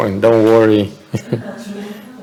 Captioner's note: laughter